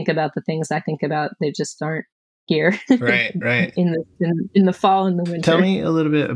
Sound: laughter

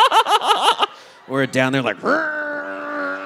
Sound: laughing; audience laughing; growling

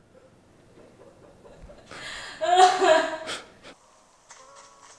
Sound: laughs

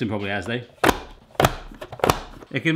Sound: lid closes

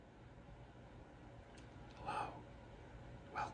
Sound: whispering

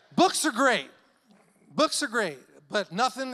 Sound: none

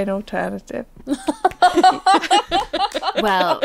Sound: laughing

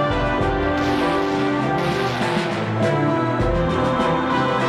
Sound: guns blasting

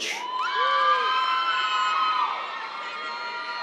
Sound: cheers

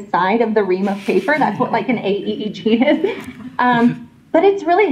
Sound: laughter

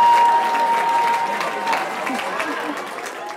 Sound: cheering

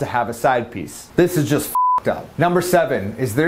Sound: beep

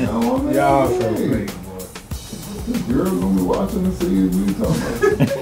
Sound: laughter

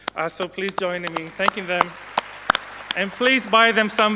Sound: audience applauding

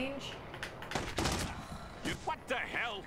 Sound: sigh

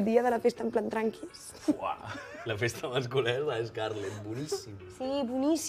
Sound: laughs

